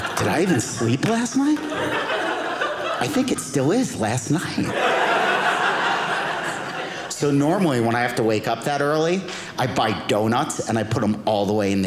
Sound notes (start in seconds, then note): 4.8 audience laughing